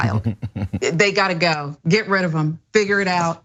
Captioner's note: laugh